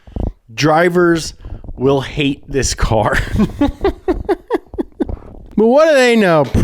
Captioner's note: chuckling